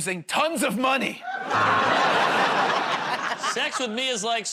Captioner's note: laughter, buzzer